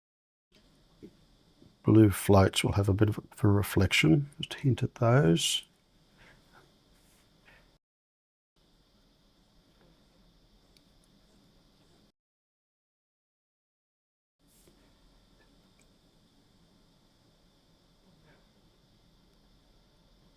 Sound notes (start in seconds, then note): 5.9 silence